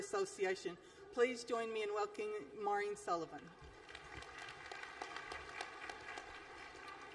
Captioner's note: applause